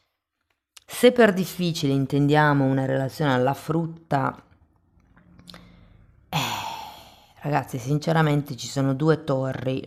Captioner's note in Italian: sospiri